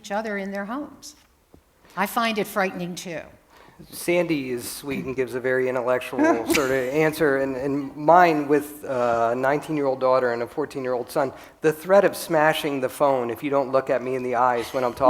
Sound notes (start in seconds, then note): 6.2 laughter